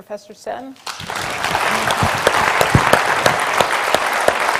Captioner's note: applause